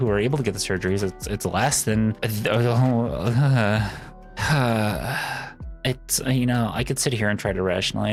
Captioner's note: sighs